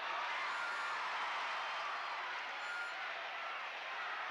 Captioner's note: crowd cheers